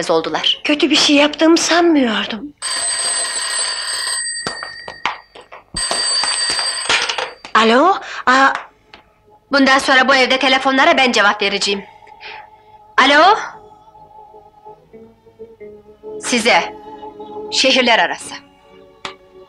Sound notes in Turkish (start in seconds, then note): 2.6 Telefon zili